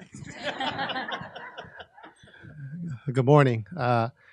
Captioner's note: audience laughing